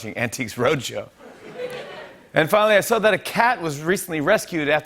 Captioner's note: laughter